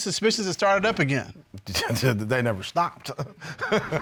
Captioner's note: scoffs, laughs